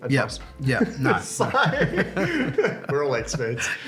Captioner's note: laughs